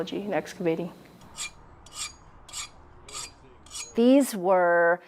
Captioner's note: metallic scraping